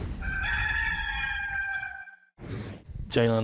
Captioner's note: rooster calls